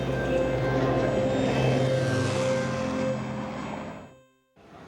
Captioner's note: airplane engine whirring